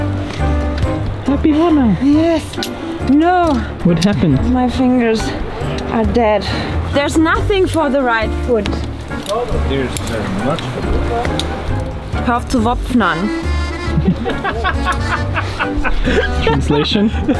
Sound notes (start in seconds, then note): 9.9 speaking foreign language; 13.1 laughing